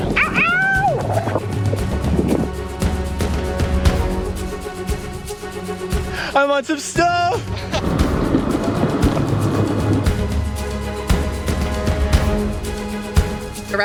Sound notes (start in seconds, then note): 1.3 upbeat intense music; 7.5 car engine rumbling; 10.4 upbeat intense music